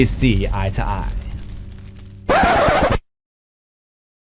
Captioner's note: record scratch